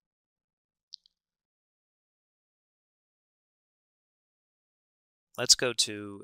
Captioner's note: silence while changing viewing screen